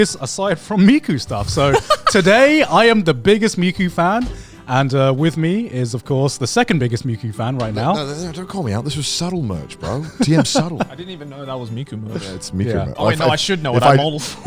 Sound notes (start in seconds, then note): 1.3 laughs; 9.8 chuckles